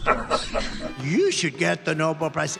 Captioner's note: laughs